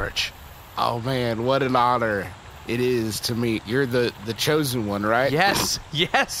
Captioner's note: laughing